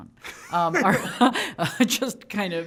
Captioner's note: both laughing